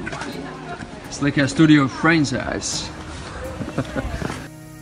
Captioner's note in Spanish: risas